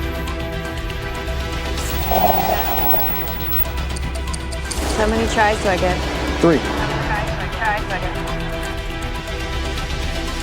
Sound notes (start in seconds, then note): 4.6 clock ticking